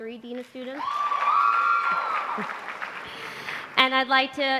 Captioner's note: applause